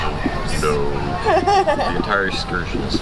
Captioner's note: laughs